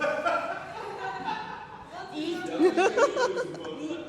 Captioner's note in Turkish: kahkaha